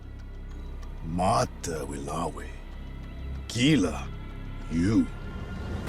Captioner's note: speaking shawnee